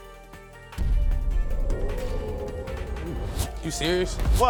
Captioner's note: audience exclaiming